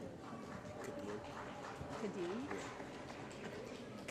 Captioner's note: applause